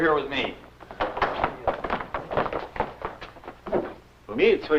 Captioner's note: footsteps; foreign language